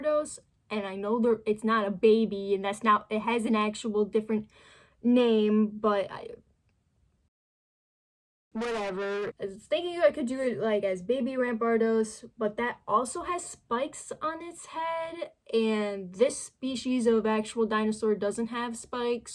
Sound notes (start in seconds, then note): 8.4 mega phone effect